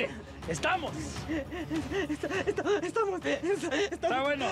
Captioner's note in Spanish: llorando